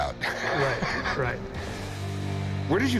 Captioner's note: laughs